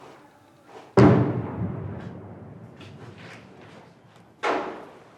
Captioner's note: explosion bangs